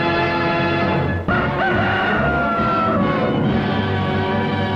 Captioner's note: rooster crows